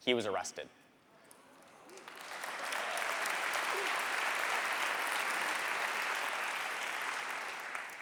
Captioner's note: applause